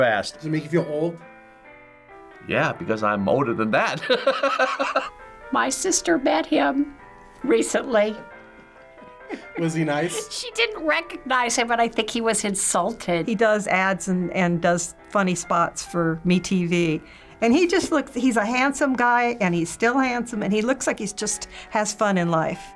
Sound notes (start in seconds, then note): 4.1 laughs; 9.2 chuckles